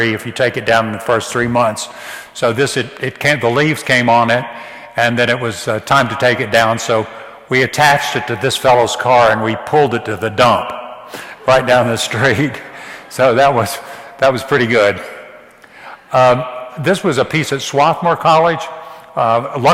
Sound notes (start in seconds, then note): none